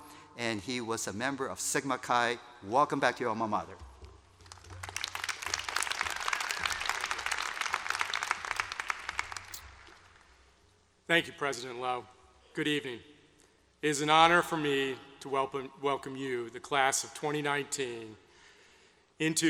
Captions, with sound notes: And he was a member of Sigma Chi. Welcome back to your alma mater. (APPLAUSE) Thank you, president Lowe. Good evening. It is an honor for me to welcome you, the class of 2019, into the